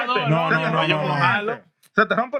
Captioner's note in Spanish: Hablando en idioma extranjero